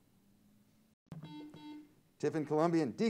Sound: buzzer sounds

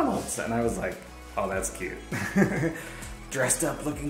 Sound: laughs

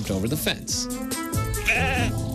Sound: sheep bleats

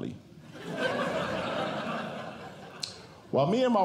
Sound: audience Laughing

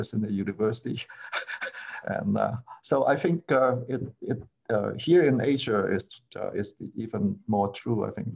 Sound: laughter

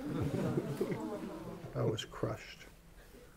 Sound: laughter

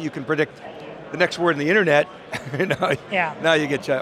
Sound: laughing

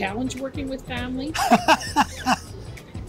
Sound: laughs

